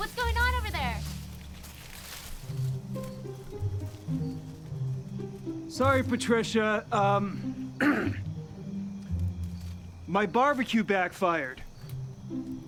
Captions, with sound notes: What's going on over there? (playful music) - Sorry, Patricia. (Kent clearing throat) My barbecue backfired.